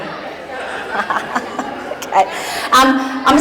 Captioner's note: laughing